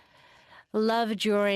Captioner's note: speaking French